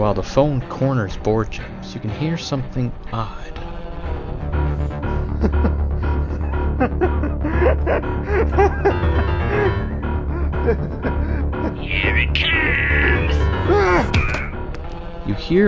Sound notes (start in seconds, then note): 5.0 Board James laughing creepily